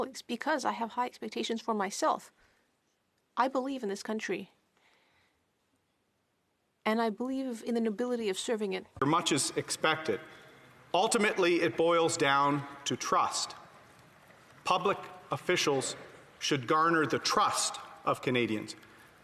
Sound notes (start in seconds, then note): 0.9 speaking French